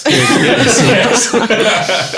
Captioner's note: laughing